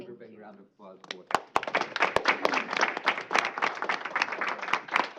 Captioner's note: applauding